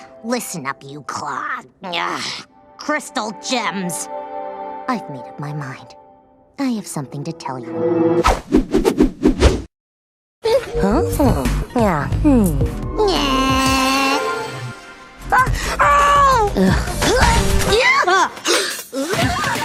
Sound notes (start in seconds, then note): 7.3 dramatic music; 18.4 gasp